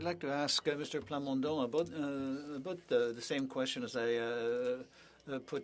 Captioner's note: speaking French